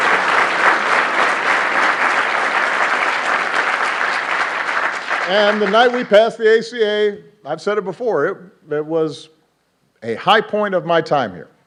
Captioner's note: applause